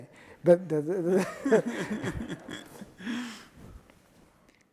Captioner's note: audience laughing